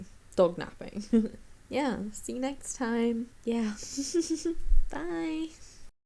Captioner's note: giggles